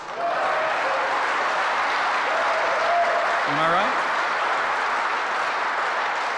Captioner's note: applause